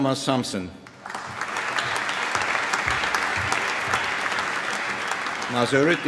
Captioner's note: applause